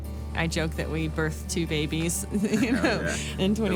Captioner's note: laughs